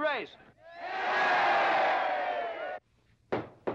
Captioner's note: crowd cheering; loud knocking